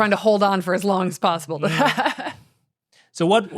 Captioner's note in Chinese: 笑聲